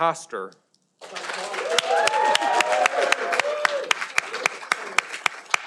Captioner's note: audience applauding